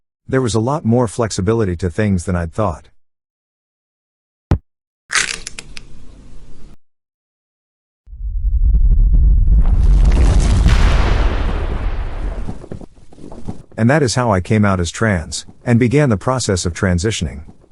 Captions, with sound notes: There was a lot more flexibility to things than I’d thought. *CRACK!!!* *INCREASNGLY LOUD RUMBLE* *KABOOOOOOM!* And that is how I came out as trans, and began the process of transitioning,